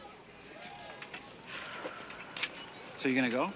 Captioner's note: sighs